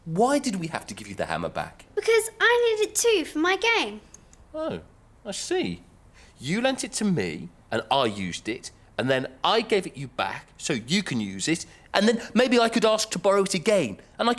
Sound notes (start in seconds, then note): none